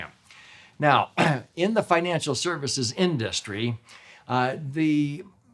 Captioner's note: clears throat